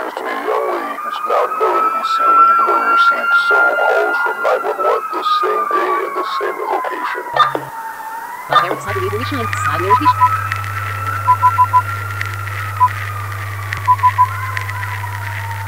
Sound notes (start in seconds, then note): 8.4 Backwards Android Speech